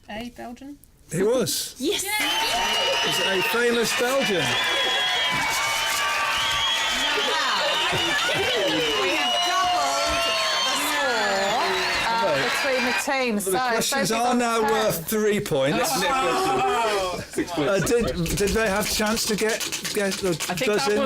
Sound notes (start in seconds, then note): 4.8 cheers